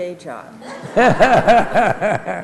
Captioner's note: laughter